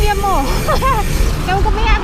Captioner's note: laughs